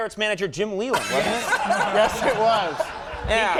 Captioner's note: laughing